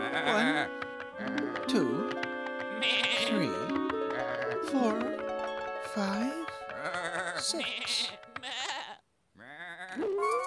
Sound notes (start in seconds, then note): 2.8 sheep bleating